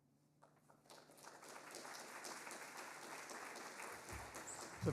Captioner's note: audience applauding